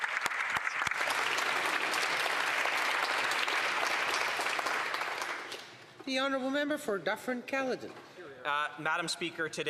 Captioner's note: applause